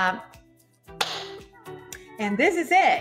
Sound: claps hands

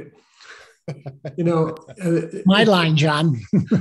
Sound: laughs

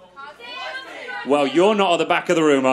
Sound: people shouting

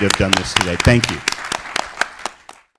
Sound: applause

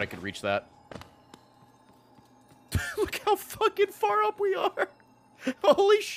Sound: laughs

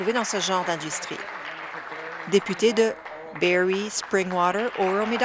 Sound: applause

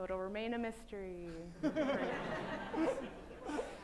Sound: laughter

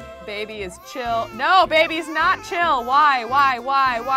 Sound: baby cries

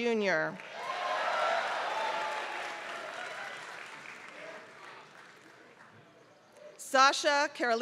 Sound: applause

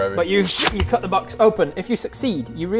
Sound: scching

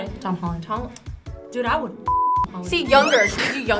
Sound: beep

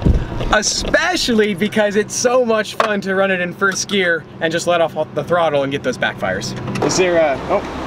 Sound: backfires

